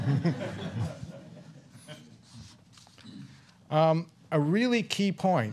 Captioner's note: laughter